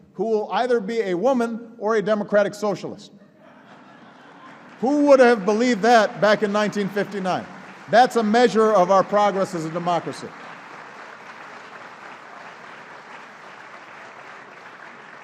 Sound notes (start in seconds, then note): 3.2 laughter and applause; 13.3 applause